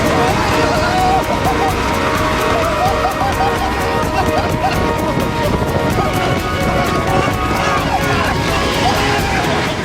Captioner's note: happy noises